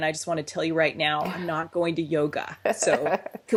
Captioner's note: laughs